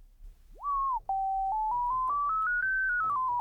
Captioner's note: beeping